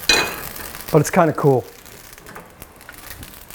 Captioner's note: sizzling